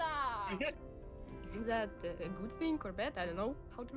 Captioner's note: laughs